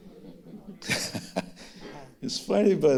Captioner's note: audience laughing; laughing